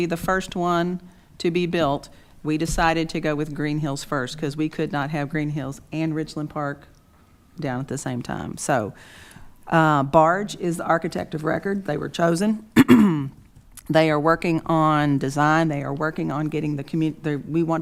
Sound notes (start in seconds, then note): 12.7 clears throat